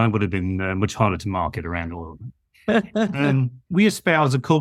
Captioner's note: laughs